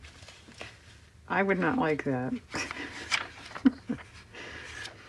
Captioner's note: laughs